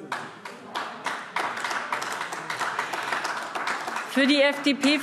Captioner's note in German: Beifall AfD